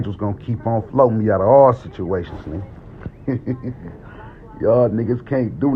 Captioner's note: chuckles